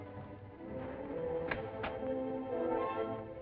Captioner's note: suspenseful music; door opens; door shuts